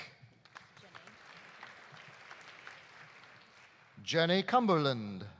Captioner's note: audience applauding